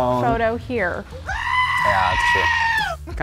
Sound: goat screaming

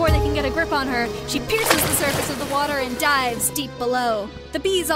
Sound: a big sploosh

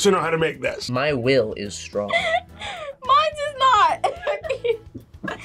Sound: laughs

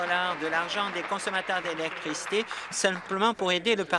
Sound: applause

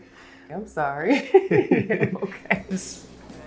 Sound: chuckles; both chuckle

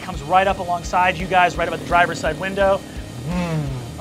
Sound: revving

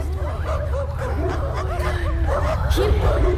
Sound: overlapping voices in unison

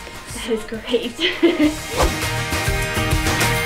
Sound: laughs; fun upbeat music

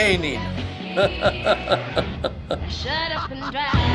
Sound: chuckling

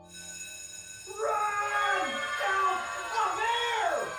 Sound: screaming

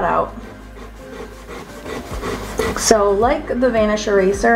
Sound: eraser rubbing

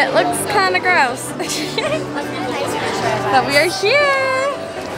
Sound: giggling

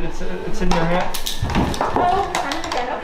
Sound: thud

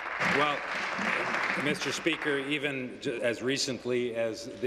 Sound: applause

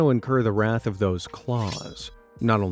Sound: metal tinging

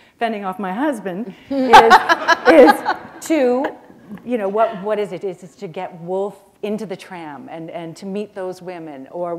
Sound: laughter

